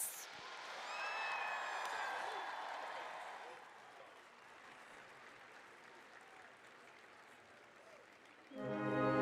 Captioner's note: applause, cheering